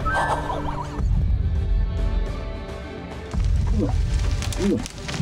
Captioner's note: laughing; moose grunts